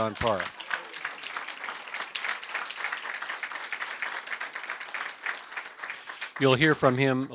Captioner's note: applause